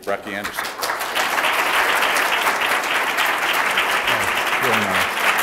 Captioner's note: applause